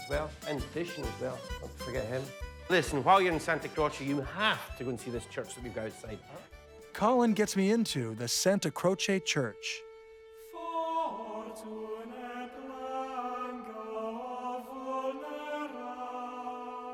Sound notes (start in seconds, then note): 10.1 vocalizing in foreign language; 14.2 solemn music